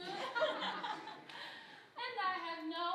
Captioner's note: group chuckling